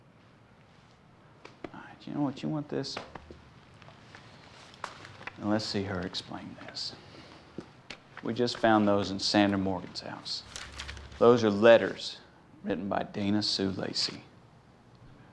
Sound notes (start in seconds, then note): none